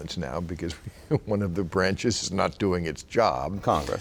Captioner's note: laughing